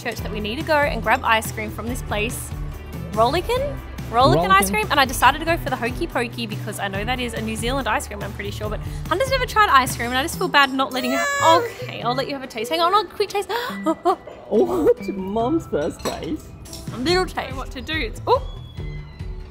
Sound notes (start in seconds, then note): 10.9 crying